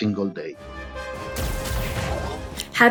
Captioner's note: gun blasts